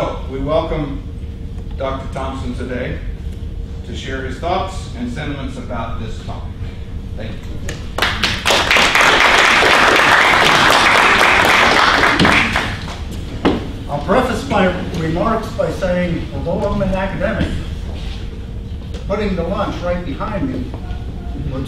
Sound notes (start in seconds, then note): 7.9 applause